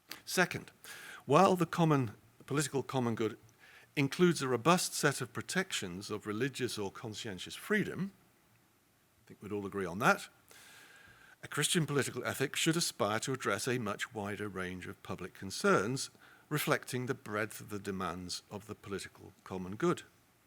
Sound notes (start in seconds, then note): none